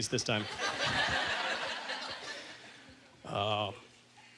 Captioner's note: audience laughter